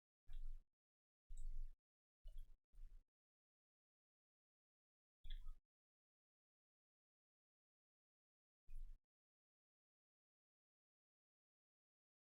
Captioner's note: silence